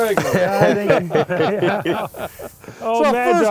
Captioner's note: laughing